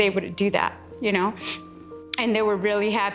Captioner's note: sniffles